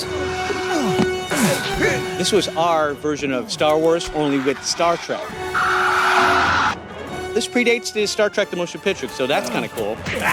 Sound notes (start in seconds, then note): 0.5 grunting; 5.4 phaser sound effects